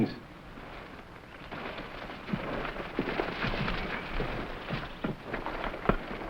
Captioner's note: plants rustling; footsteps rustling